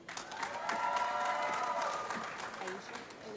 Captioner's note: applause